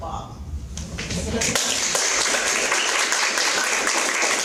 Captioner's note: applauding